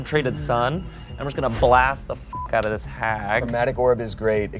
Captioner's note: beep